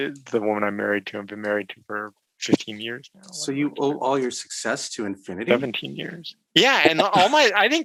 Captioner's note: chuckles